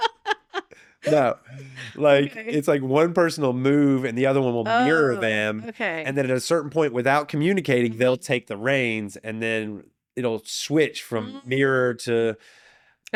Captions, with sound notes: (laughing) No, it's like one person will move and the other one will mirror them. And then at a certain point without communicating, they'll take the reins and then it'll switch from mirror to--